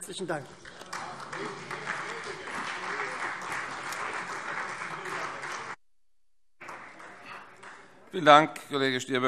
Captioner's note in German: Beifall Freie Demokraten, vereinzelt CDU und SPD